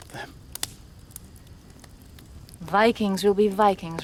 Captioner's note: fire crackling